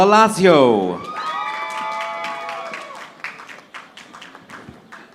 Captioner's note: audience applauding